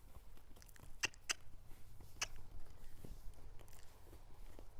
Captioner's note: clicks tongue